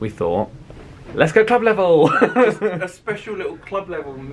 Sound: laughs

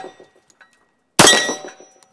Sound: bang

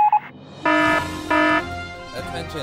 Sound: morse code; alarm

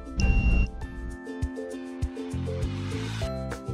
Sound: thermometer beeps

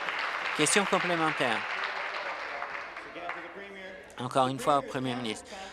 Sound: applause

